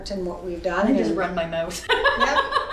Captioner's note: laughs